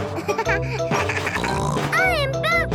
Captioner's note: bleating; giggles, snorts